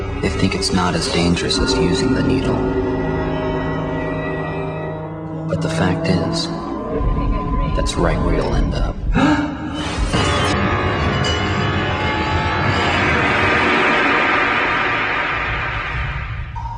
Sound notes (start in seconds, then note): 9.1 man gasps; 9.9 dramatic music